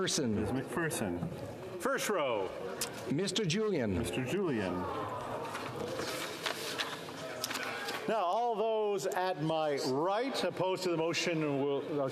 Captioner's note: calling of recorded vote